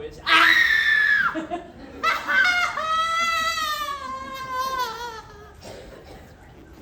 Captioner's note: 6 Straight Seconds of Unhinged Screaming